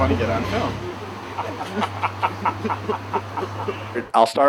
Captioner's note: both laughing